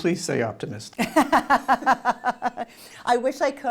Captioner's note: laughing